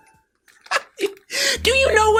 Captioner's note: chuckle